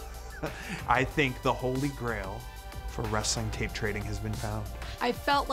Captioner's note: laugh